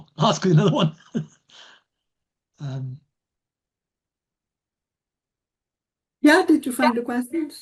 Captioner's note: laughter